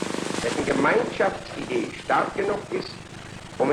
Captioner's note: speaking german